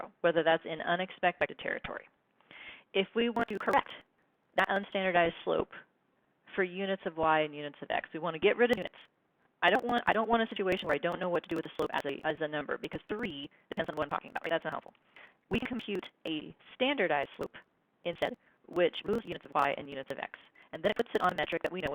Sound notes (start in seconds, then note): 18.6 glitching speaking